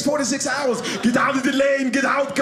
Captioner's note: imitating Arnold Schwarzenegger